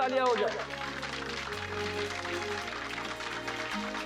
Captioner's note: audience applauding